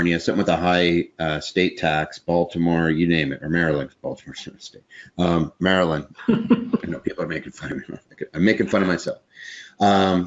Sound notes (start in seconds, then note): 6.1 laughs